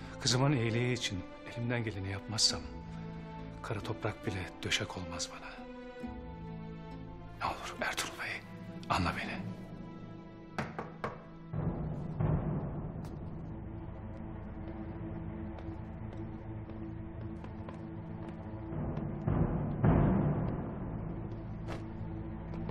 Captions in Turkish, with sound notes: Kızımın iyiliği için elimden geleni yapmazsam... ...kara toprak bile döşek olmaz bana. Ne olur Ertuğrul Bey anla beni. (Kapı tıklama sesi) (Müzik - Gerilim)